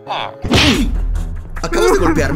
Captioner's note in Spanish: Sonido de golpe